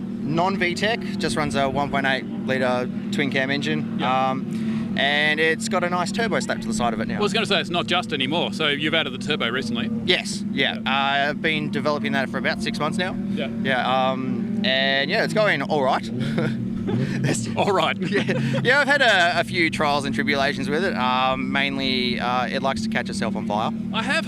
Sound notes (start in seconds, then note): 16.1 laughs